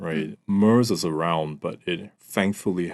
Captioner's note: none